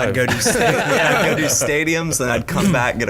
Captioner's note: laughing